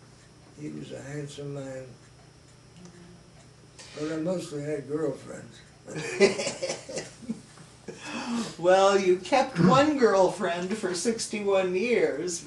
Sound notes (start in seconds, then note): 5.9 chuckles